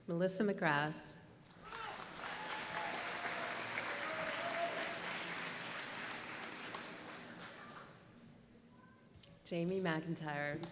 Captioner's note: applause